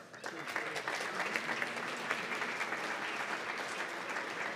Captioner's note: applause